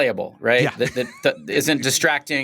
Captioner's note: laughs